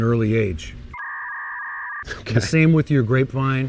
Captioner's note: electronic signal